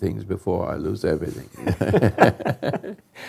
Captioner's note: chuckles